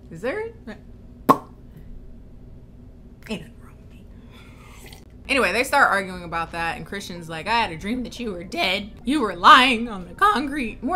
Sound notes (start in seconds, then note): 1.2 smacks lips; 4.5 sips